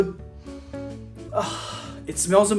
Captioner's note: inhales